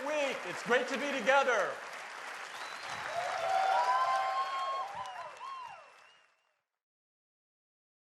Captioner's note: cheers and applause